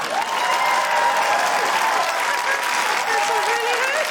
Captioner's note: cheering, applause